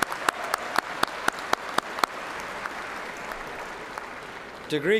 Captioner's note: cheers and applause